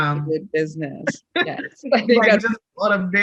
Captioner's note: laughs